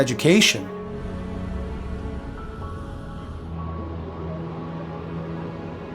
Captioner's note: city noise